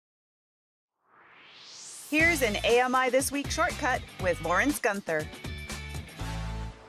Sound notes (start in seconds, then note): 1.0 swoosh